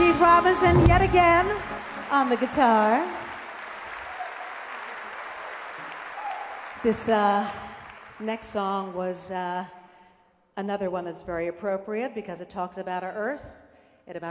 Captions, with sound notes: Keith Robinson, yet again on the guitar. (audience applauding) This next song was another one that's very appropriate because it talks about our earth